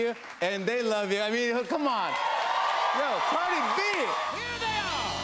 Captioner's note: cheers and applause